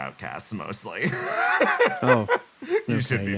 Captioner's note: laugh